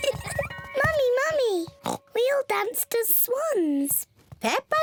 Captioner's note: oinks